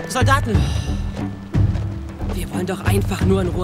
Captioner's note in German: Bedrohliche Musik; Genervtes Seufzen